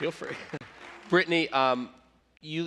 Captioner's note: applause